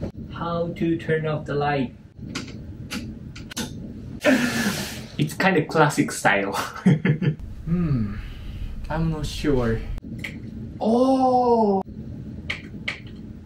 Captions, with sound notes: How to turn off the light? [CLICK] [CLICK] [CLICK] [GASPS] It's kind of classic style. [CHUCKLES] Hmm... I'm not sure... [CLICK] Ooooh...! [CLICK CLICK]